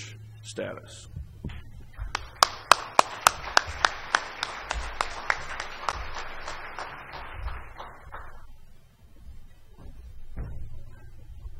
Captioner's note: applause